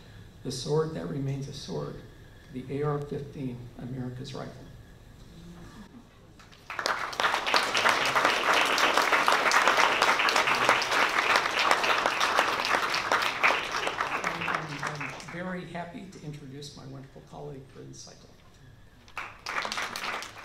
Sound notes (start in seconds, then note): 6.4 applause